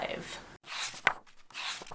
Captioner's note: pages turning